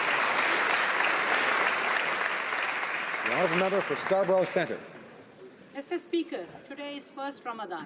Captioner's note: applause